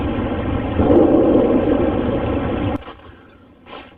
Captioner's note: banging